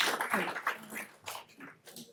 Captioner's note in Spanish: aplausos